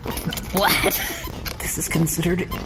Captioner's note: whispering